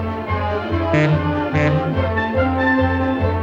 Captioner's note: monorail horn